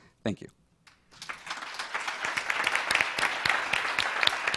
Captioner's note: audience applauding